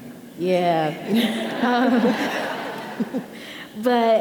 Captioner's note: audience laughing